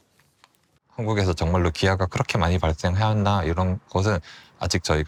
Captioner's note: speaking Korean